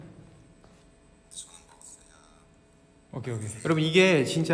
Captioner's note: playing recorded voice message